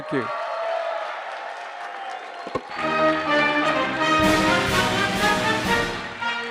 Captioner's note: applause